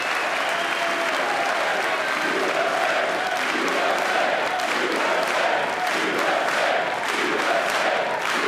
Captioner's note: applause